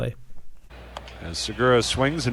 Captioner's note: soundbite of archived recording